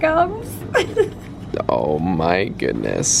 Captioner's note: chuckles